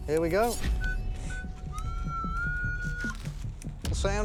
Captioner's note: metal detector beeping